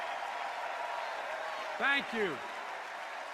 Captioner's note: cheers and applause